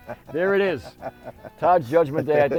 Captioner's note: laughing